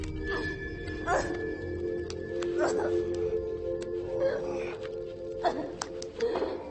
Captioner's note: suspenseful music continues; soft music; Lily grunting